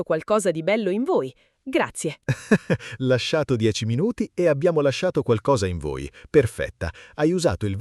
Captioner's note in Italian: risate